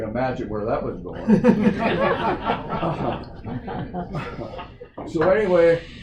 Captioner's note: laughter